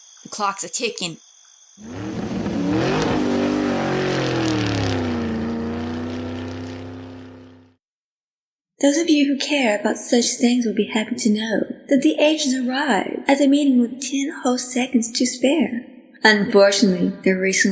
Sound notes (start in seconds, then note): 1.8 car revvs and speeds away